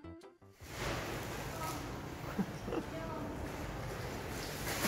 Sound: water splashing

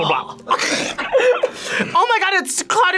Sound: laughs

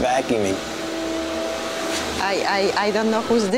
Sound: vacuum hums

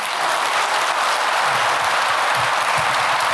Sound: applause

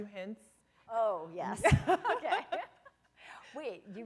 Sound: laughter

